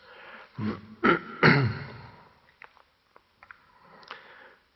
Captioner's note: clearing throat